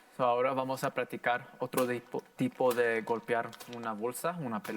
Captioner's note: in foreign language